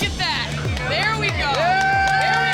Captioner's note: cheering